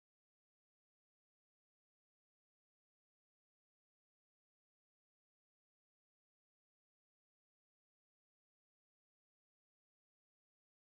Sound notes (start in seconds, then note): none